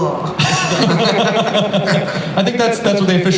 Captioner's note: laughter